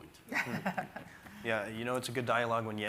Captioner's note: everyone chuckling